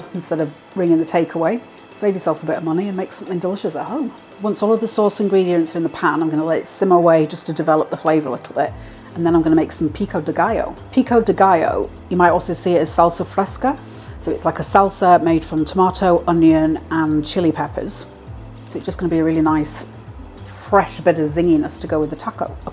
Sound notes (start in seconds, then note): none